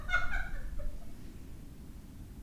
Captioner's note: both Laugh